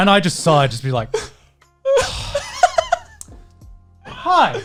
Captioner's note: exhaling deeply